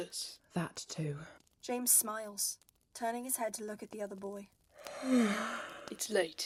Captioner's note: Regulus yawns